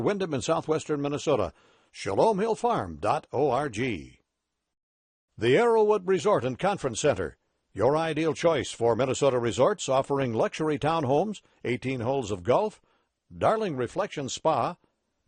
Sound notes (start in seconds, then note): none